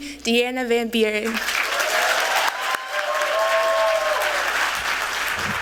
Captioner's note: applause